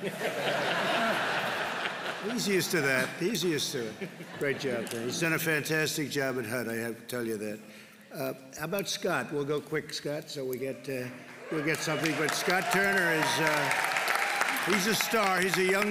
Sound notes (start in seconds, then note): 0.0 laughter; 11.3 applause